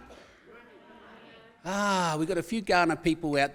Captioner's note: audience answers